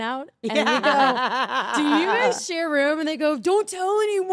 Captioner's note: laugh